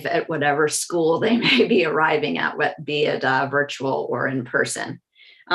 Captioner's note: laugh